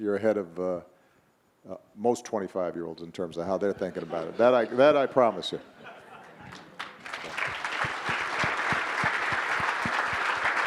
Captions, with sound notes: You're ahead of most 25 year olds in terms of how they're thinking about it, that I promise you. (audience members laughing) (audience applauding)